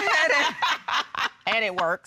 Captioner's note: laughter